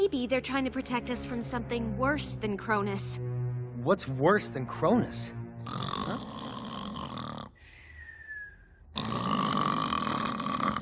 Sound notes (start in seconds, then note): 6.2 snoring